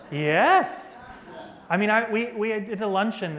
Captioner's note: laughter